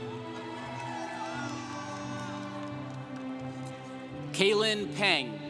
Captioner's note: congregation cheering